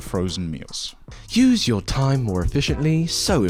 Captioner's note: posh accent